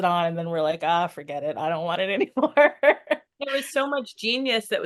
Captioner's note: laughs